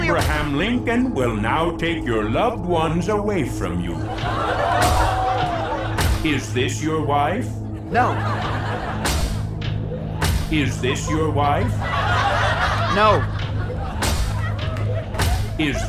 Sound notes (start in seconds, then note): 4.0 robotic walking; 12.1 audience laughing